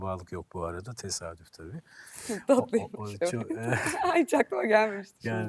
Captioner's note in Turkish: kahkaha